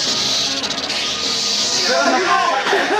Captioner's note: hissing